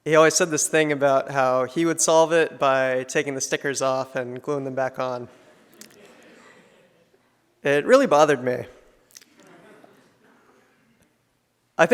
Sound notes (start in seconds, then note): 5.3 audience laughs; 9.2 audience laughs